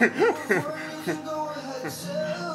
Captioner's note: laughs